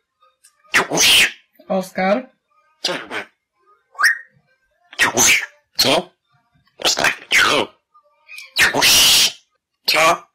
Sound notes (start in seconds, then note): 3.9 whistling